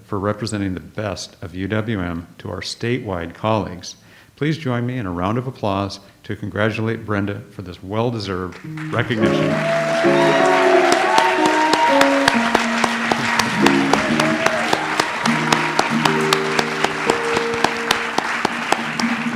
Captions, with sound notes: for representing the best of UWM to our statewide colleagues, please join me in a round of applause to congratulate Brenda for this well-deserved recognition. (audience applauds) (light jazz music)